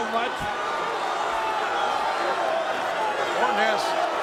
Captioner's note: crowd clamoring